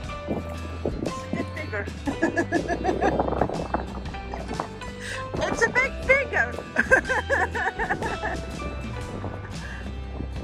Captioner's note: laughter